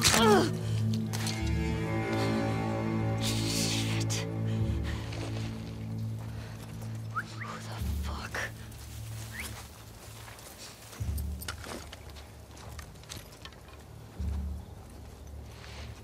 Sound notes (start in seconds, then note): 7.1 hushed whistles; 9.3 hushed whistle